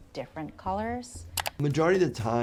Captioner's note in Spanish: clic del mouse